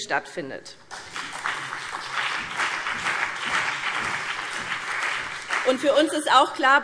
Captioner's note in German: Beifall BÜNDNIS 90/DIE GRÜNEN und CDU